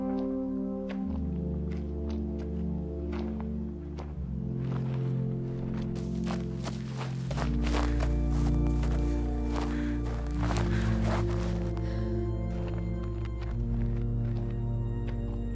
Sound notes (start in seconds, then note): 10.3 Quinn panting; 12.3 dramatic music